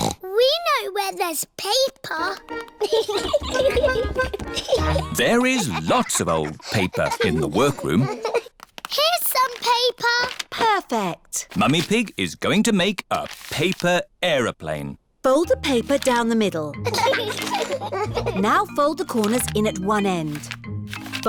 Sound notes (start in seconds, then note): 0.0 snorts; 2.8 giggling; 16.8 both giggling